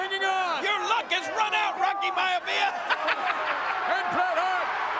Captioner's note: laughs